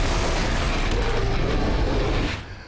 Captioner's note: roaring